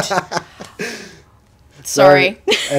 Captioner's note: laughing